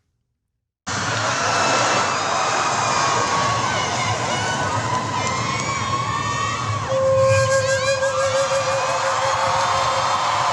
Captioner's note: applause